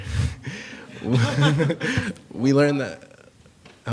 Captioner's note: laughter